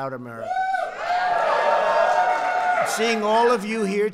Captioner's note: applause